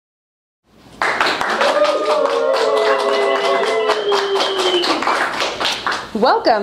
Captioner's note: cheering and applause